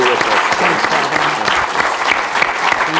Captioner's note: applause